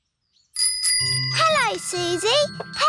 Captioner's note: bicycle bell rings